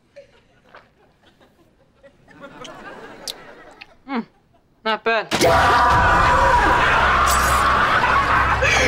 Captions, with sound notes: Hmmm, not bad. [screaming]